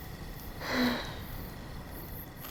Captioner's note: sighs